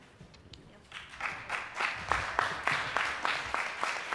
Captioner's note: clapping